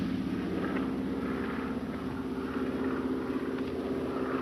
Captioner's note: engine droning